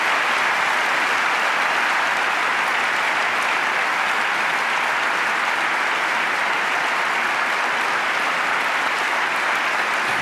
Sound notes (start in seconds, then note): 0.0 clapping